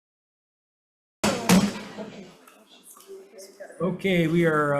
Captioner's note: gavels taps